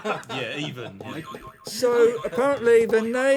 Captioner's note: boinging